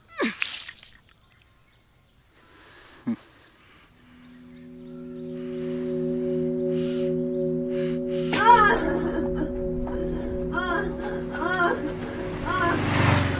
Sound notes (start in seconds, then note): 8.0 woman moaning